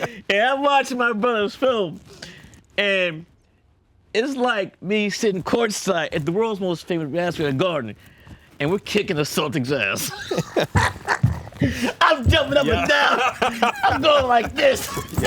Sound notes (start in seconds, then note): 0.0 both laughing; 10.0 laughs